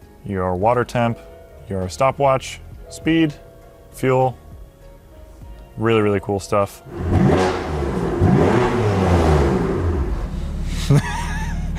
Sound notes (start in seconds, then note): 6.8 engine revs